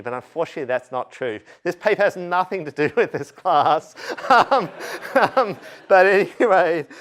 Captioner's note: laughter